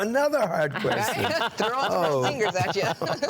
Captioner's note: group laughs